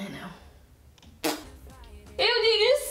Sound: more spit noises

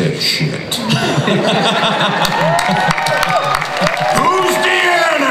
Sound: audience cheers

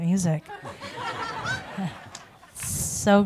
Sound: audience laughs

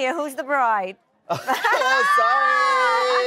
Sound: laughs

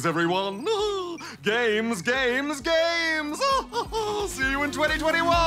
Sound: laughs

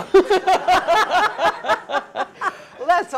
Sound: laugh

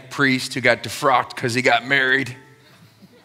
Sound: laughter

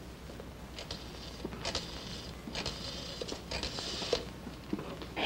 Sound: rotary Phone Dialing

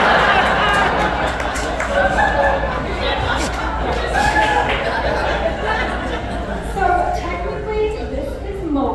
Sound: laughter

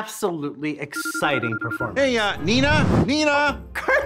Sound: phone rings

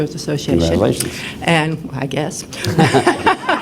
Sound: laughter

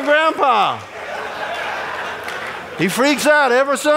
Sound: audience laughing

